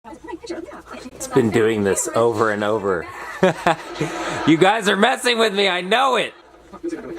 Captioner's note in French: rires